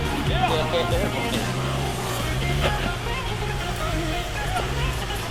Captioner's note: engine drowning out voices